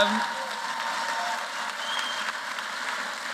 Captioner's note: applause